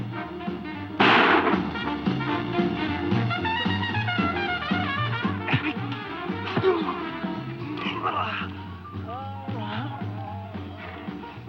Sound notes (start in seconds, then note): 1.0 gunshot booming; 5.6 Joe grunting; 5.6 punches thudding